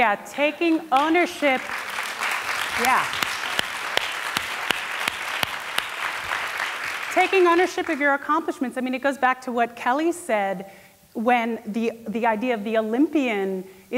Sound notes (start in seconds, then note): 3.2 applause